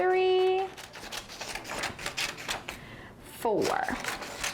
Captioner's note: scissors snipping